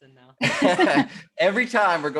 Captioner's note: laughter